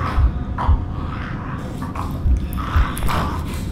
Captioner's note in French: Craquement d'os; Le monstre continue à rugir et à gratter